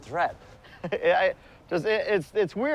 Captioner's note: chuckles